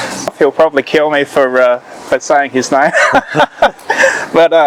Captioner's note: laughing